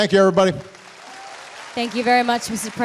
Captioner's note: applause